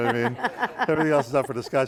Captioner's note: laughing